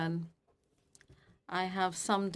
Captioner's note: speaking FRENCH